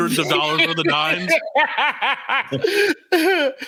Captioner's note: laughing